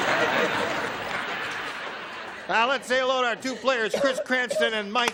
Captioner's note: laughter